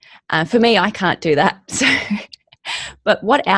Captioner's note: chuckles